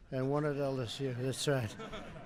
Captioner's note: laughter